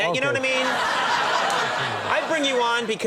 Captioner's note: audience laughing